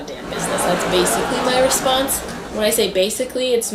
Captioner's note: audience laughter; laughter